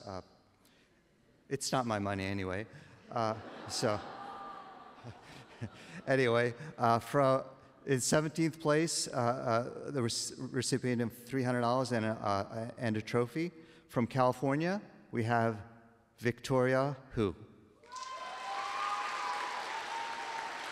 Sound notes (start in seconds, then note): 3.1 laughter; 17.9 applause